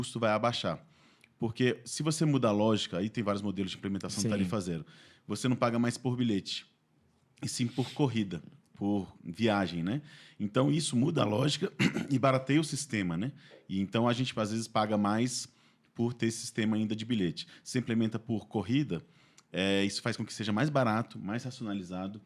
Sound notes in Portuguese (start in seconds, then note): 11.7 limpando a garganta